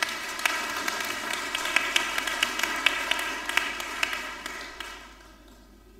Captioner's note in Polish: oklaski